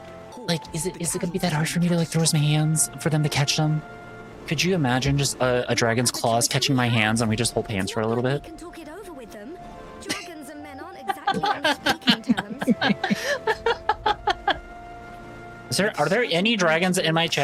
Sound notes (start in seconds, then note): 10.8 laughing